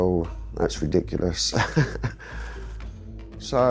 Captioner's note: chuckles